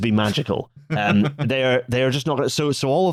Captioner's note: laughs